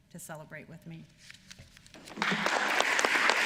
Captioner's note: applause